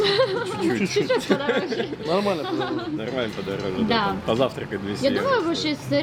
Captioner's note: laughing